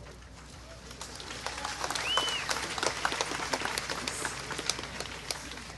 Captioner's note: clapping